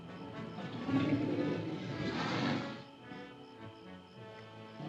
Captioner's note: elephant grumbles